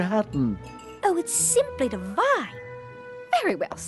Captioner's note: posh accent